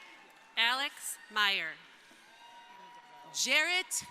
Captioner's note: crowd applauding; crowd cheering